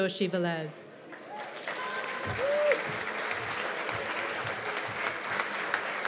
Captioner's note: cheers and applause